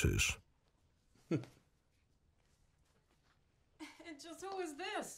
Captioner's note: chuckles